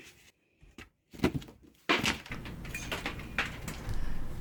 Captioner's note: splintering wood